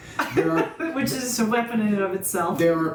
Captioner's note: laughs